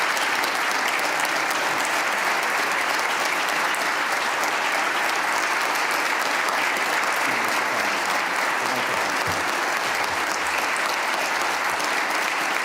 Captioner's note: applause